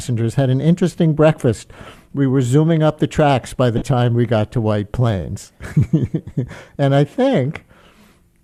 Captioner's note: chuckles